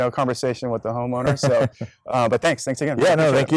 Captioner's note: laughs